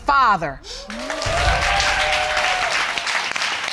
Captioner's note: audience cheering and applauding